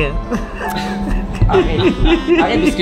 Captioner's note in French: rire